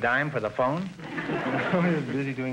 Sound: audience laughter

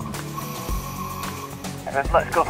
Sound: air hisses

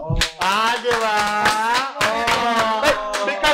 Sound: cheers

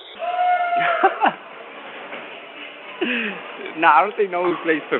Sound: laughing

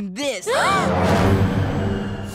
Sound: gasping

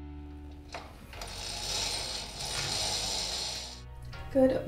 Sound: window seals rolling

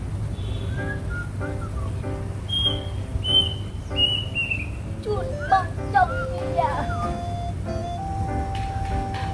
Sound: bird's voice

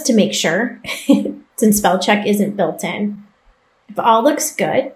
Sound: chuckles

